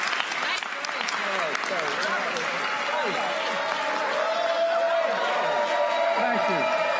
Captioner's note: applause